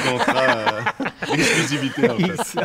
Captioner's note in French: rires